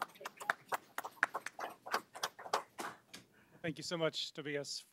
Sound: audience claps

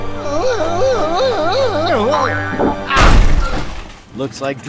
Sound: exclaiming

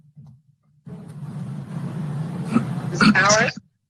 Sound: car engine roars

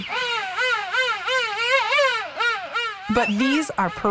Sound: penguins singing

